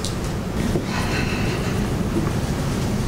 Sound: Ned sighs

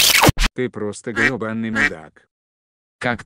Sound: quack

